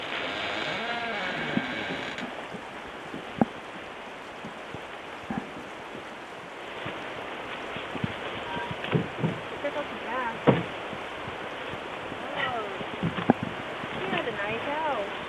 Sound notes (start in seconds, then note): 0.0 door squeaking; 7.7 door closing